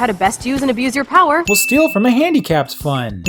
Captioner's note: ding